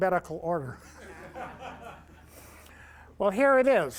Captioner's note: laughter